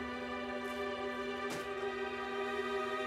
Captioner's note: Door opens, closes